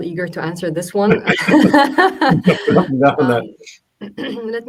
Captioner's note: laughing